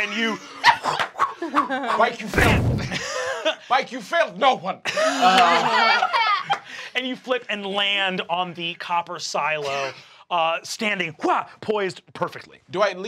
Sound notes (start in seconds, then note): 3.1 chuckles; 4.9 laughing